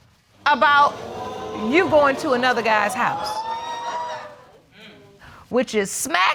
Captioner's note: audience gasps